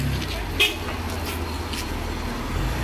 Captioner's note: car honk